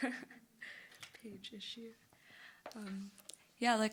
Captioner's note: chuckles; mumbling